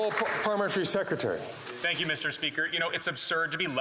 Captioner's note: some Applause